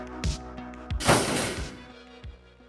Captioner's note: rumble